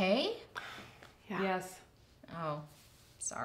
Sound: sigh

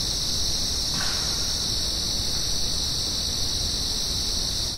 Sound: knocking sound

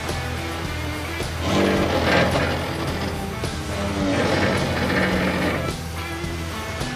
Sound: Jeep Noises

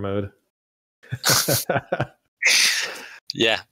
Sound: laughter

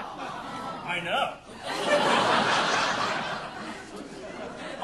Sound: audience laughing

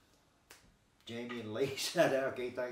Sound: clicking fingers

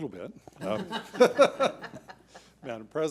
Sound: board laughs

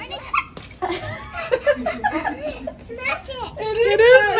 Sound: laughs & dances

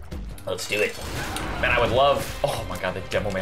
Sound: Demoman charge sound

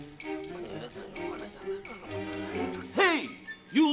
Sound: Mr. Nite mumbling and whispering

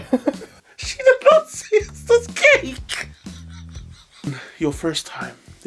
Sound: laughs

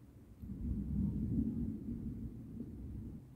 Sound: quiet thunder

